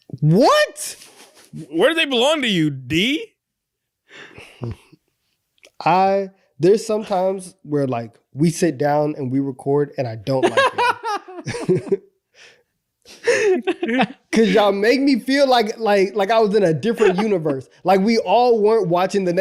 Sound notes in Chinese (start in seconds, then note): 10.4 大笑